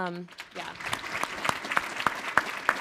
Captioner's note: all applauding